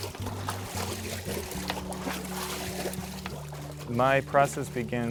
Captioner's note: water splashing